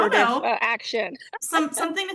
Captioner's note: laughs